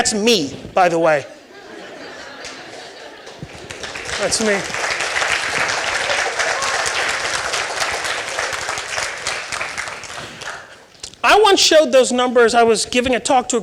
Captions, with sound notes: That's me, by the way. (audience laughing and applauding) I once showed those numbers, I was giving a talk